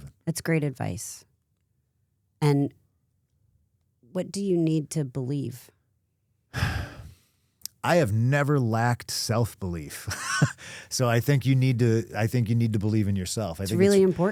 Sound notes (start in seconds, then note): 6.5 sighs; 9.9 chuckles